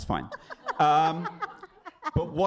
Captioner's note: laughter